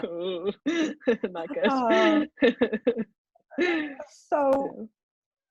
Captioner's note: laughter; shudders; laughter